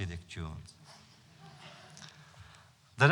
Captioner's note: laughter